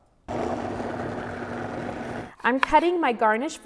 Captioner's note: blender buzzes